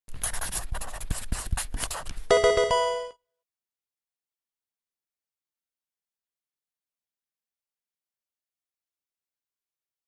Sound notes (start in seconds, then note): 0.1 marker writing; 2.3 Pokemon game sound